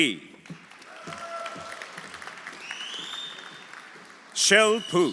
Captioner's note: audience applauding; audience cheering